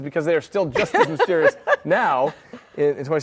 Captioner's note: laughs